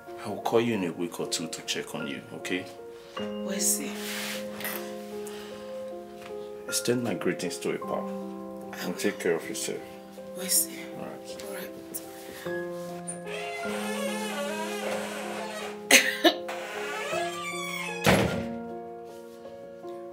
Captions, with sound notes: I will call you in a week or two, to check on you. Okay? Thank you. Extend my greetings to your husband and take care of yourself. Thank you. (coughing) (door closed)